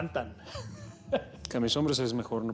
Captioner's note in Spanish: risas